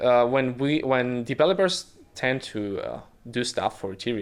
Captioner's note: none